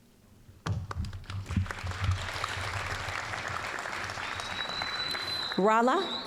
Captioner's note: applause